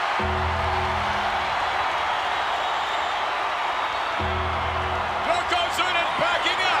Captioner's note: applause